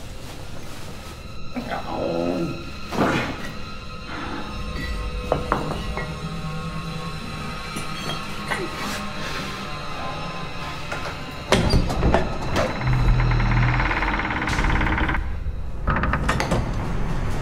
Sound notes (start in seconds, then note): 0.2 suspenseful music; 11.4 door creaks open